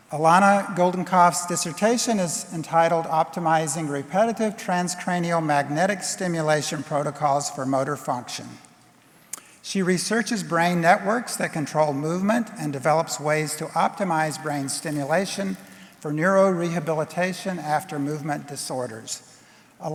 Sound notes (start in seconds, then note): none